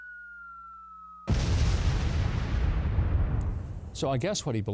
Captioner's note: bomb explodes